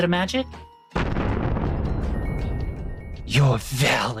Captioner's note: thunder clap